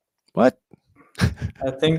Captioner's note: chuckles